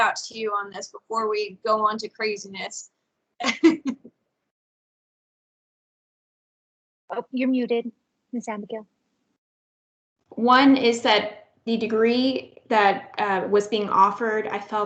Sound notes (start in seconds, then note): 3.4 laughs